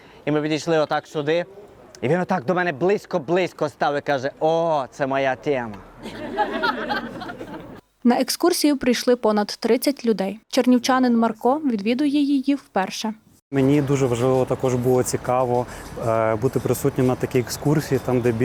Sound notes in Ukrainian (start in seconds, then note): 6.0 Сміються люди